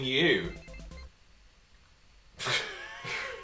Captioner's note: chuckling